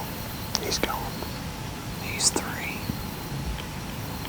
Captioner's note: whispering